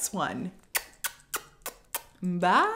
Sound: kisses

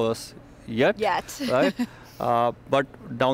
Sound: laughs

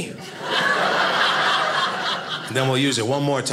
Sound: audience laughing

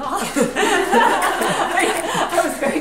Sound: group laughs

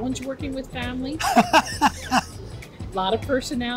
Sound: laughs

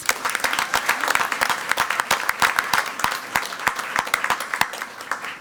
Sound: crowd clapping and cheering

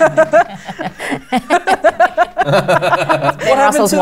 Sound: laughter

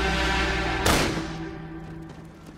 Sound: gunshot

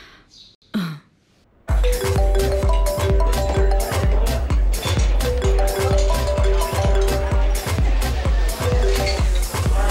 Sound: phone ringing

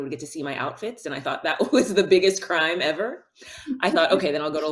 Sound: chuckles

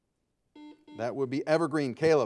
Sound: buzzer beeping

